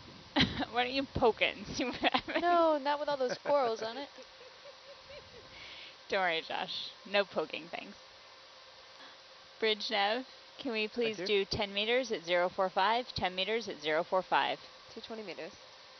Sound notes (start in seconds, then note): 3.1 woman laughs